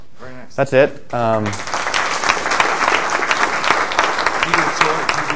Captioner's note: applause